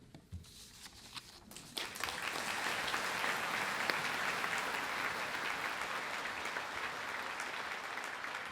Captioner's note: applause